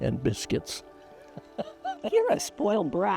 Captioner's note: chuckling